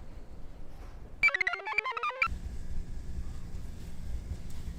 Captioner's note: computer chirps